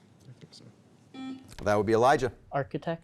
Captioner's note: beep